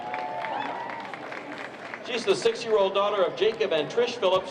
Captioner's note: applause